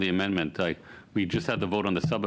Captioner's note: speaking French